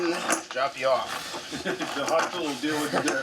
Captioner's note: laughing